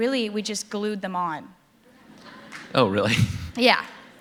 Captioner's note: laughter